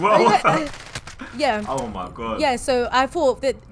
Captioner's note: laughs